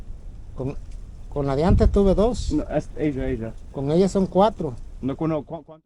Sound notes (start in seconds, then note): 2.1 speaking in foreign language